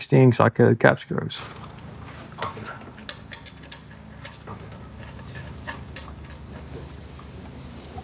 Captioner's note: clanking